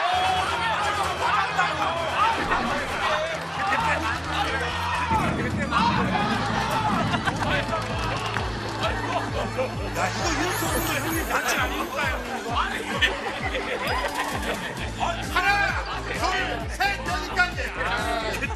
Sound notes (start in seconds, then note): 5.4 heavy rain